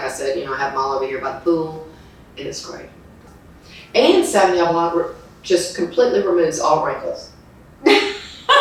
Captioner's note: laughs